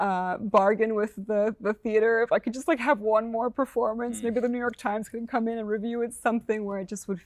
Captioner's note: laughs